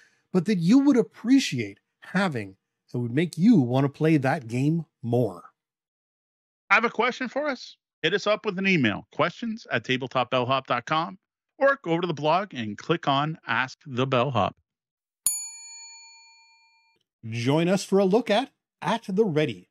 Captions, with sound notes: but that you would appreciate having that would make you wanna play that game more? I have a question for us. Hit us up with an email, questionsattabletopbellhop.com, or go to the blog and click on Ask the Bellhop. (bell ringing) Join us for a look at "At the Ready,"